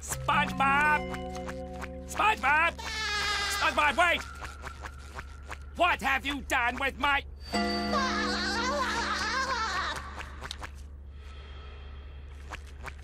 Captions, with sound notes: SpongeBob! SpongeBob! SpongeBob, wait! What have you done with my-- [SpongeBob laughter]